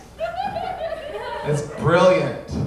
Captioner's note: audience laughing